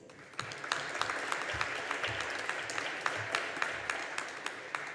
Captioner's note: audience applauding